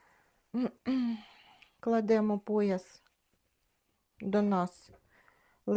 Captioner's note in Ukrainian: прочищення горла